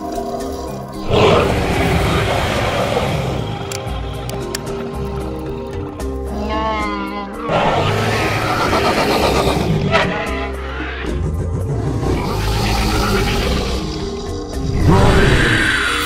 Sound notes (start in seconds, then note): 1.0 Sauropelta growls; 7.3 ceratosaurus roars